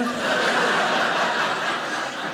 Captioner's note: audience laughing